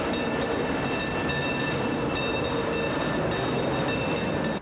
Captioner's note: <i> bell ringing</i>